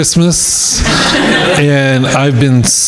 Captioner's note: crowd laughing